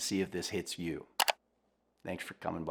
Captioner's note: computer click